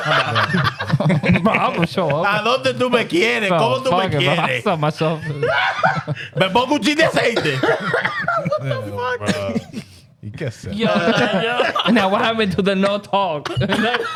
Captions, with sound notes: (Laughing) I'm gonna show up. (Speaking In Foreign Language) (Laughing) (Speaking In Foreign Language) You can't say it. Yo, yo, now what happened to the no talk?